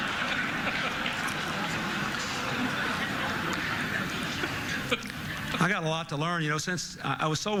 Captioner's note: laughter